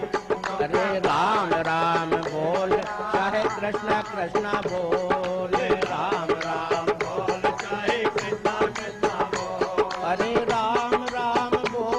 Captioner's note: chants